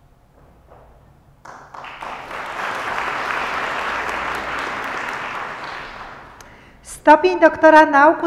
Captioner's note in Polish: oklaski